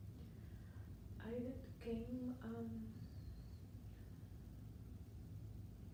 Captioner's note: speaking faintly